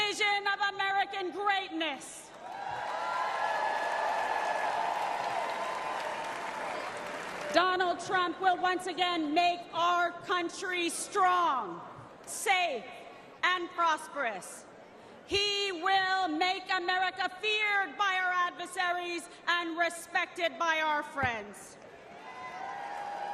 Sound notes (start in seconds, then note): 5.8 applause